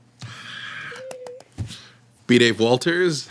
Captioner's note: cheering